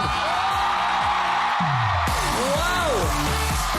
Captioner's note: crowd cheering, applauding